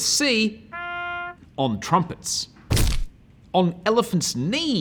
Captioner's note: horn sounding